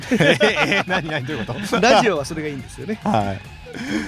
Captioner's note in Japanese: 笑い